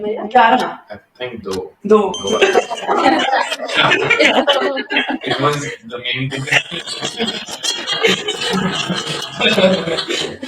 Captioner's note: laughter